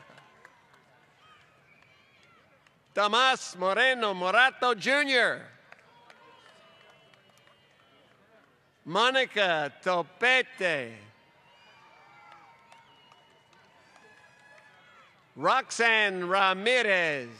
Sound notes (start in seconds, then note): 0.0 applause; 8.4 applause; 15.0 applause